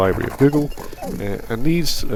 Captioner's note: digital Sounds